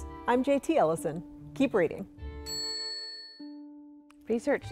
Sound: bell dings

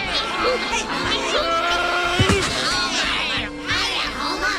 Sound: screaming

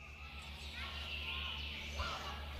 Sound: birds chirping

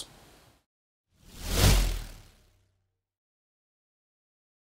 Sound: logo whooshing

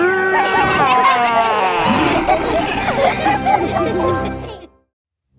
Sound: laughter

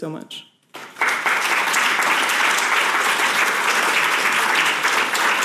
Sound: audience applauds

